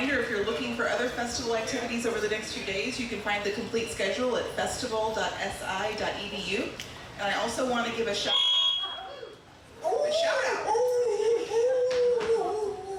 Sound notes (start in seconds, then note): 8.2 microphone feedback squealing; 9.9 howling